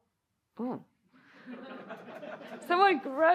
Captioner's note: laughter